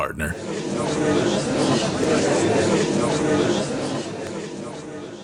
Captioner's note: gallery chattering